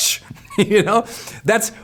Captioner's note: laughs